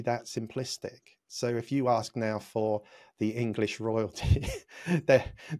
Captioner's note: laughs